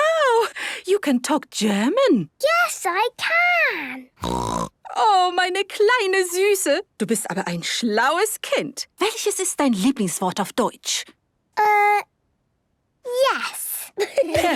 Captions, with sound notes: - Wow! You can talk German. - Yes, I can! (snorting) (speaking German) - Uh... yes. (laughter)